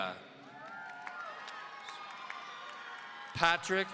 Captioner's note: audience cheering